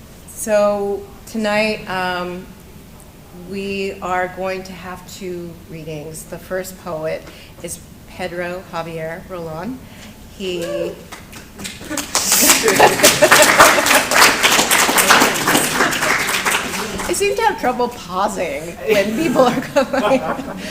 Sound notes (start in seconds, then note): 11.0 applause